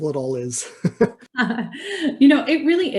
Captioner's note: laughing